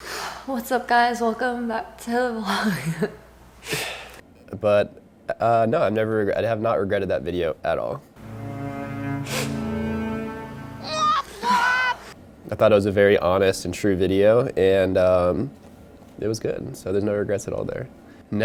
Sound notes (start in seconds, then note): 8.2 solemn string music; 9.2 sniffing; 10.8 baby wah-wahing